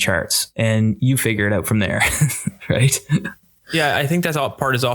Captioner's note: chuckles